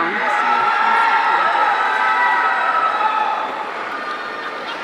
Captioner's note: audience cheering